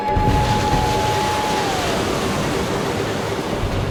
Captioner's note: water splashing